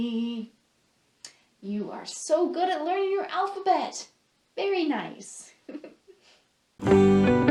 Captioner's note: laughs